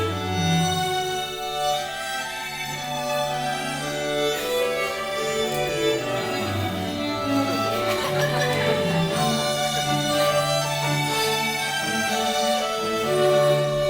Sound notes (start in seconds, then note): 7.1 audience laughing; 9.4 slow tempo upbeat classical music